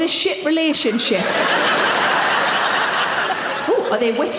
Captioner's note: audience laughing